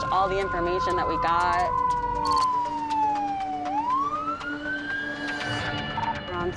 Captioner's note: sirens